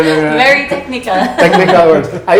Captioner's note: laughs